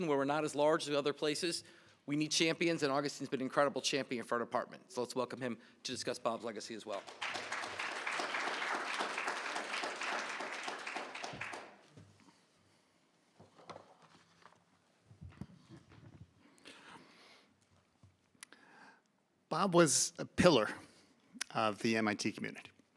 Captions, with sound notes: we're not as large as other places. We need champions, and Augustin has been an incredible champion for our department. So let's welcome him to discuss Bob's legacy as well. [APPLAUSE] Bob was a pillar of the MIT community.